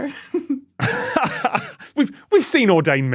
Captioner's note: laughs